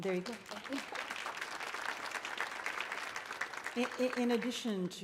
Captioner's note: audience applauding